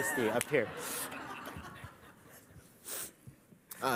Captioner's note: laughter